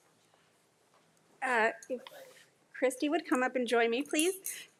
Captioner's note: none